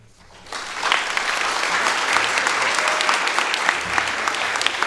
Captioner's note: audience applauding